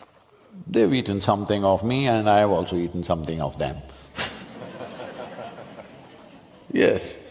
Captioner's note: laughter